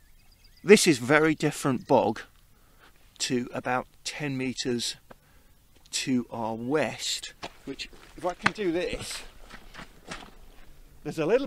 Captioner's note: squelching of wellies